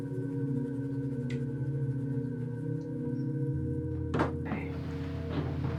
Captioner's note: door clicks